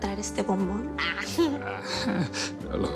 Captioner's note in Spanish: Risas